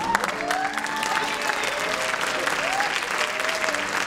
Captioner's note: applause